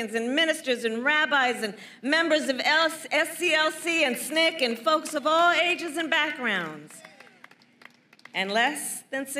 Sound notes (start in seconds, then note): 6.6 applause